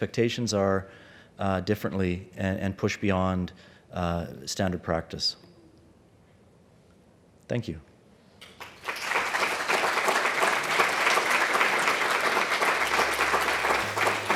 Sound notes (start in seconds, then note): 8.4 applause